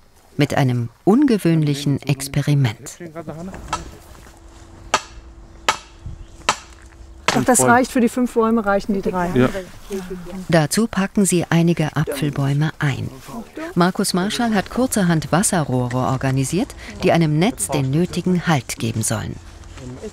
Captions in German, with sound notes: Mit einem ungewöhnlichen Experiment. (Metallisches Hämmern) Für die fünf Bäume reichen die drei. Dazu packen sie einige Apfelbäume ein. Markus Marschall hat kurzerhand einige Wasserrohre organisiert, die einem Netz den nötigen Halt geben sollen.